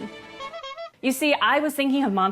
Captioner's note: honka honka